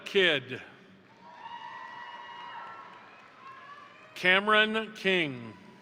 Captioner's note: crowd applauding; crowd cheering